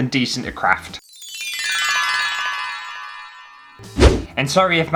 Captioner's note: twinkle